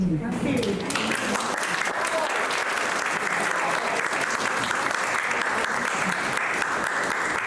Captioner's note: audience applauding